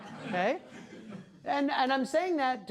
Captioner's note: class laughing